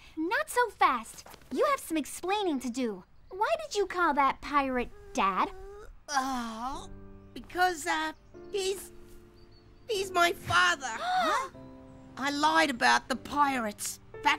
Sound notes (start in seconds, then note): 4.8 groans; 11.0 Nate and Malika gasp